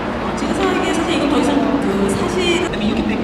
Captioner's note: speaking Korean